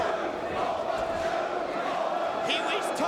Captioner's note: crowd chanting